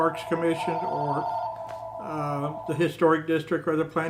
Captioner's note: phones ringing